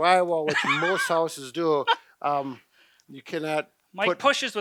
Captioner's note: laughter